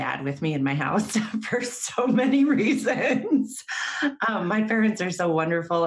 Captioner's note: laughs